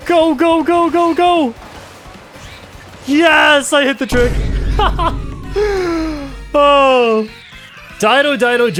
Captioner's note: laughs